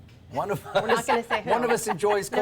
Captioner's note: laughter